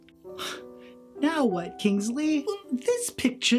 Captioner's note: sighs in frustration